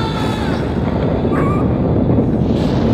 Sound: stephen screams; dog yelps

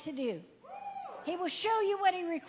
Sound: audience member cheering

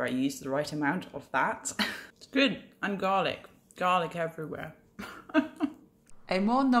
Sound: laugh

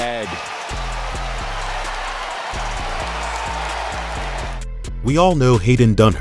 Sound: crowd cheering

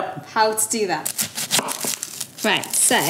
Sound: onion skin crunching

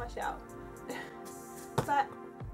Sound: laughs

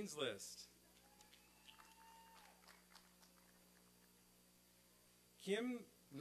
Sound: applause and cheering

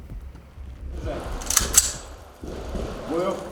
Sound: gun clicking sound

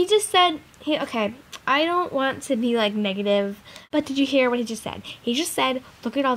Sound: sighs

